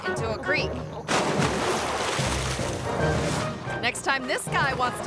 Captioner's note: water splashing